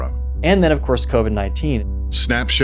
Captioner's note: soundbite of archived recording